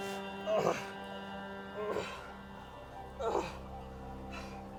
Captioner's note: Arawn groaning